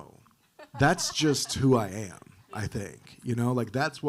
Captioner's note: panelists laughing